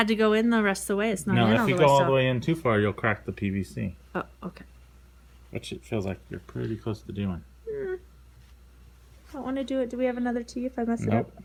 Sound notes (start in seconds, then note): 7.7 whimpers